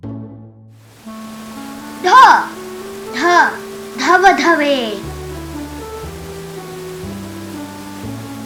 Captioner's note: waterfalls